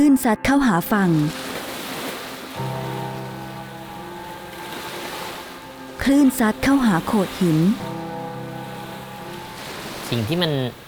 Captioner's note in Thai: เสียงคลื่น